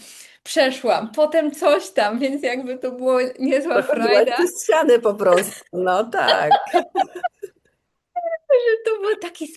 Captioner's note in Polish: śmiech